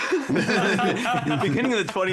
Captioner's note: laughing